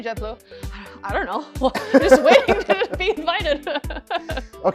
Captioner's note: laughs